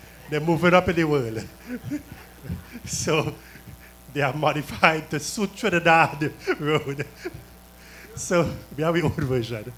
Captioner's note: laughter